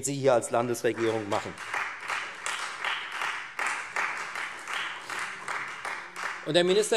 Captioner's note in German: Beifall Freie Demokraten